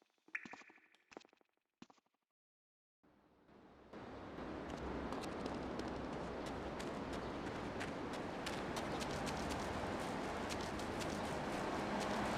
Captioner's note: sirens wailing